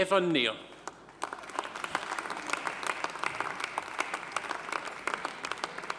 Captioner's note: audience applauding